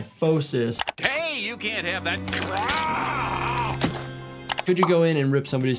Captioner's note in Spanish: gruñe